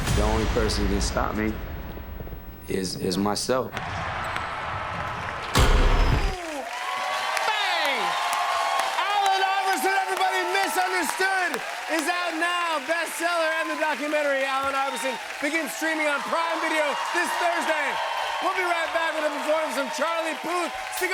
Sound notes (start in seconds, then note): 7.6 cheers and applause